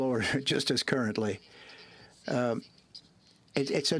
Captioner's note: speaking French